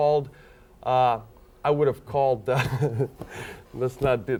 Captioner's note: laughs